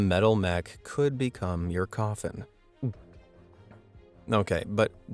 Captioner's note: gulps